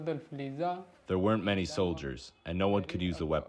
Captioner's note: through translator